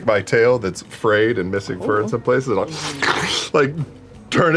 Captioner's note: slurps